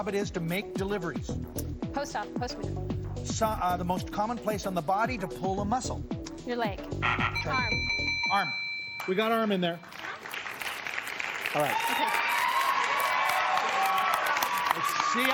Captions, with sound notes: -Someone whose job it is to make deliveries. -Postman. -The most common place on the body to pull a muscle. -Your leg. (buzzer sounds) -Try-- -Arm. -Arm. We got arm in there. (applause) All right. -Okay. (cheers and applause)